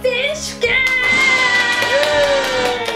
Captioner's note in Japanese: 拍手